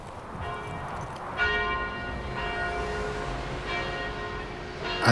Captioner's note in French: Cloches d'église